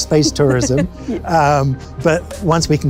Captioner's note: laughs